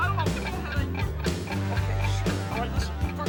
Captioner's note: rock music; clock ticking